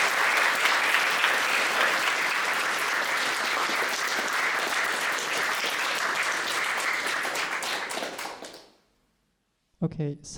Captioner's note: audience clapping